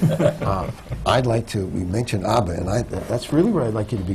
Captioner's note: laughter